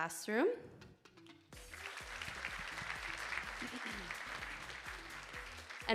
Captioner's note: audience applauding